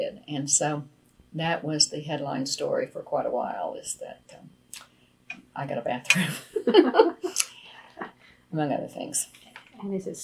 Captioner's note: laughs